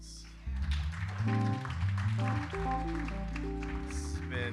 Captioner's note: audience applauding